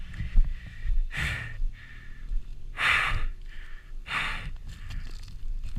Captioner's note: breathing heavily